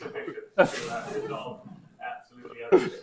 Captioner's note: laughs; audience laughs